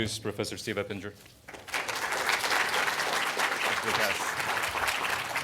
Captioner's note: crowd clapping